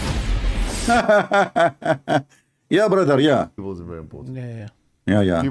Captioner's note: Ketawa